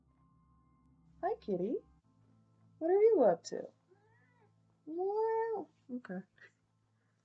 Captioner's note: Sunny meows back